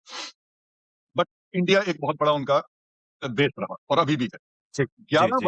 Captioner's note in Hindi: नाक से की जाने वाली आवाज़